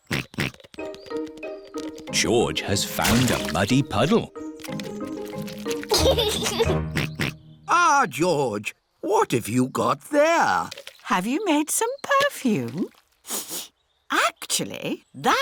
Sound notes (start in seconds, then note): 0.3 snorts; 6.9 snorts; 13.2 sniffs